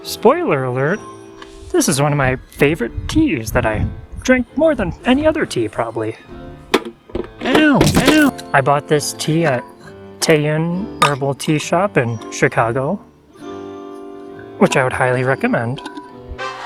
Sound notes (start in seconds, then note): 7.8 ow, ow! bone crunching noises